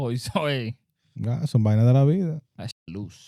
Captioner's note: speaking Spanish